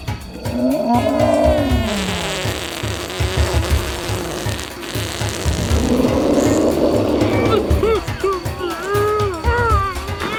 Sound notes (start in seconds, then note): 0.4 dinosaur growling; 1.6 dinosaur farting; 5.6 upbeat drumbeat music; 7.7 all groaning